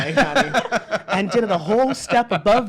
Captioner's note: laughs